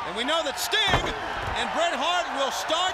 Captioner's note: crowd cheering